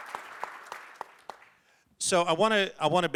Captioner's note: applause